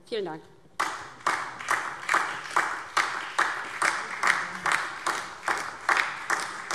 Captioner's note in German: Beifall DIE LINKE und vereinzelt SPD